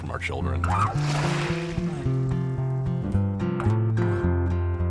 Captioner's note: water sloshing; lighthearted guitar music